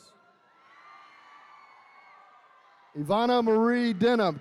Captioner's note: attendees cheering